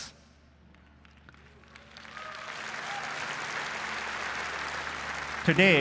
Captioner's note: applause